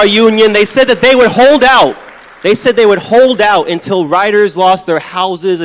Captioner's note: applause